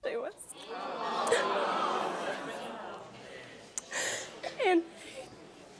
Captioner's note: audience expresses disdain